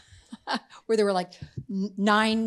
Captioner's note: laughing